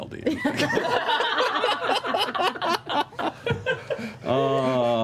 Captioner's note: laughter